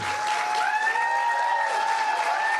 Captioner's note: applause